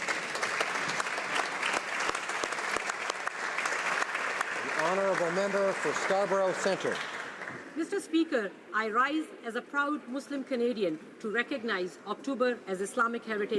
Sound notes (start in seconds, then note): 5.2 some Applause